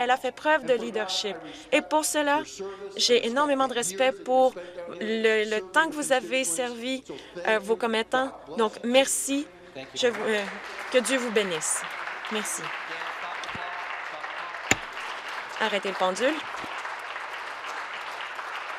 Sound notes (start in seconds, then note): 13.8 applause